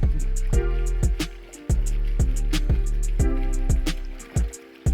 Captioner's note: water rushing